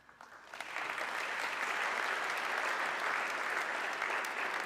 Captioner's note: audience clapping